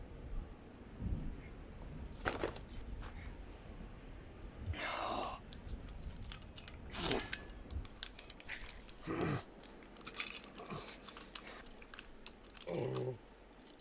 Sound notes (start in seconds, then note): 0.9 key jingles; 4.7 sighs; 6.9 blood oozing; 11.6 manacles clanking